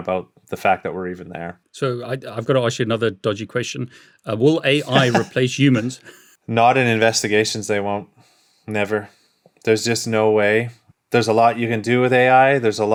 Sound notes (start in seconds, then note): 4.5 laughs